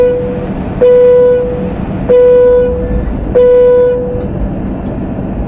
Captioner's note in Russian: звуковые сигналы